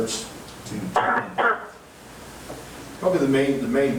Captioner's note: coughing drowns out speaking